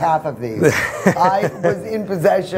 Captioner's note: laughing